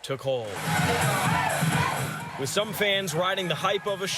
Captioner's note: applause